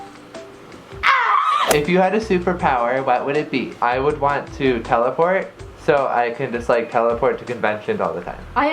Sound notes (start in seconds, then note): 1.4 squeals